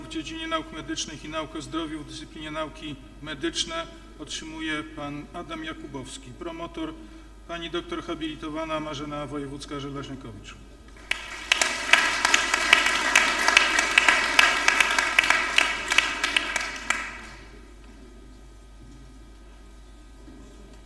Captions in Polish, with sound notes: w dziedzinie nauk medycznych i nauk o zdrowiu, dyscyplinie nauki medyczne otrzymuje Pan Adam Jakubowski. Promotor Pani dr hab. Marzena Wojewódzka-Żelezniakowicz. [oklaski]